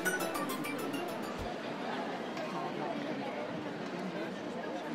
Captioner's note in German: Musik verklingt, Stimmengewirr